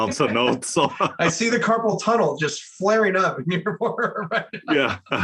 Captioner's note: laugh